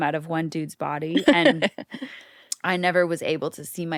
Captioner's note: laughs